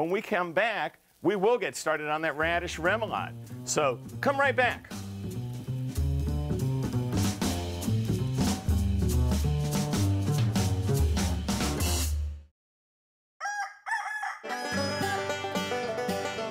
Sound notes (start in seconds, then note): 13.4 rooster crows; 14.4 banjo plays